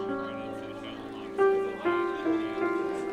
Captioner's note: overlapping chatter